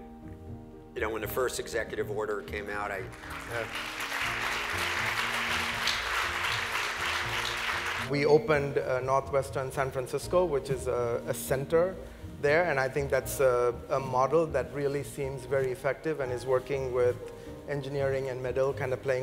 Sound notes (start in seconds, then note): 5.5 clapping